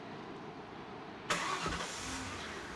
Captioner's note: engine starts